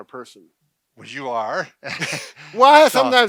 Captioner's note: chuckling